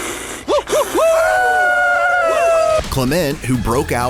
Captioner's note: all hissing; all howling